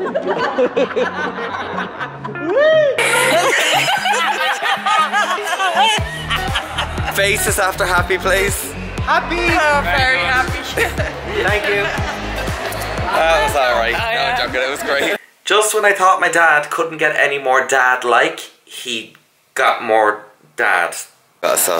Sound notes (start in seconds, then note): 5.2 group laughs